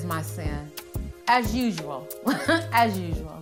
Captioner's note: laughs